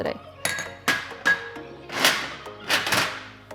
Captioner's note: bowl clanking